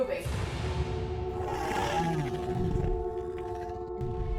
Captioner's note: growling